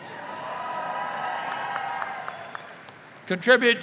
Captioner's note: audience applauding